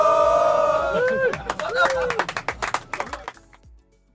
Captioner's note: cheers